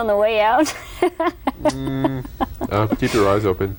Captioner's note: laughter